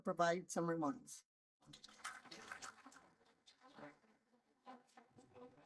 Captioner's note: applause